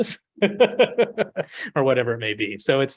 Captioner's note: laughs